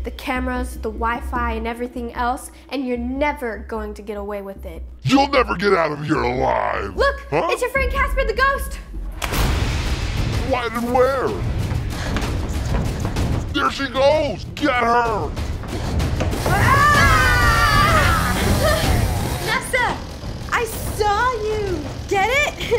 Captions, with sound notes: The cameras, the Wi-Fi, and everything else. And you're never going to get away with it! You'll never get out of here alive! Look! It's your friend Casper the Ghost! What? Where? There she goes! Get her! Aaahhh! [Saw sound] Nessa! I "saw" you... get it?